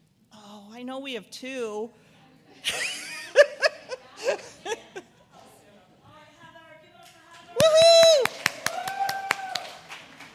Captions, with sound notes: Oh, I know we have two. (LAUGHS). (AUDIENCE APPLAUSE)